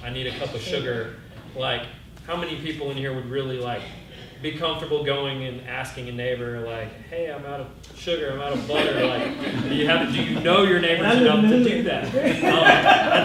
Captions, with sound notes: I need a cup of sugar. How many people in here would really be comfortable going and asking a neighbor, hey I'm out of sugar, I'm out of butter. (laughter) Do you know your neighbors enough to do that?